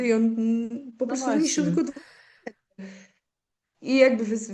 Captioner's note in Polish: wciągnięcie powietrza